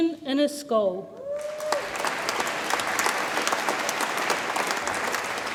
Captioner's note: audience applauds and cheers